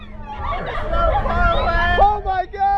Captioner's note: riders screaming